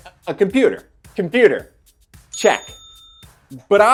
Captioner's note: bell dings